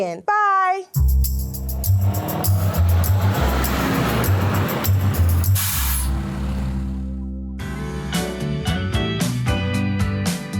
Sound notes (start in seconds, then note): 0.9 light music; 1.0 bus revving; 5.1 air brake hisses; 7.7 upbeat music